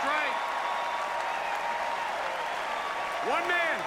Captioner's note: applause